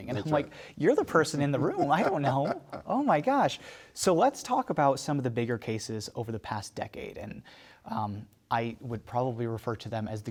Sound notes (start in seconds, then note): 1.4 laughs